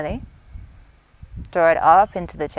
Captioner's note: inhales deeply